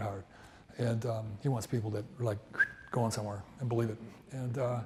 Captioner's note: whistles